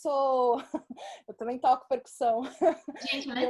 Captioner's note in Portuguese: risos; risos